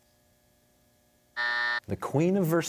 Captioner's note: buzzer